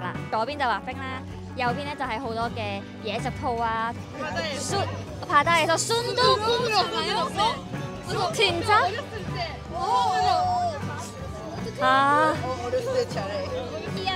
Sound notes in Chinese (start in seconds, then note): 3.9 同學們正在聊天